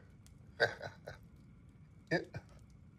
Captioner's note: Tom laughs